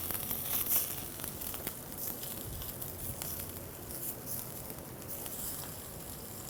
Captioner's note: slight sizzling sound